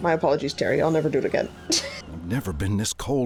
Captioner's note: laughs